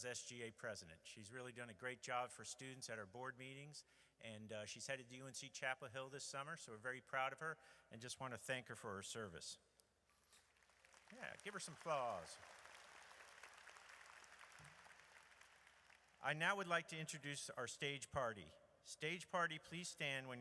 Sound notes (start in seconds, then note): 10.5 audience applauds